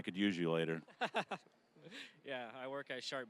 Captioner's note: laughing